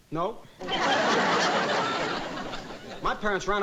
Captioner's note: laughter